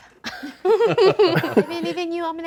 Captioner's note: group laughing